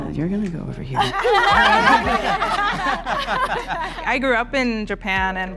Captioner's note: group laughing